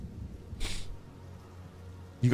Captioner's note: sniffs